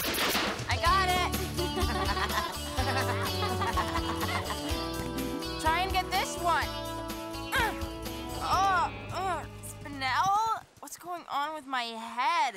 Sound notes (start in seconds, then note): 1.6 giggling